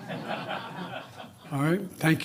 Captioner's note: laughter